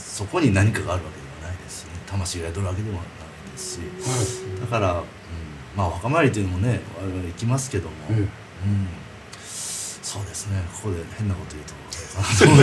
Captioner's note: laughs